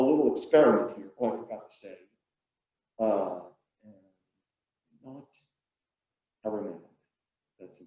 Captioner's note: murmurs